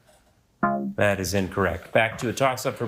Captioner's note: buzzer beeping